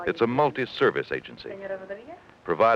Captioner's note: nurse talking on phone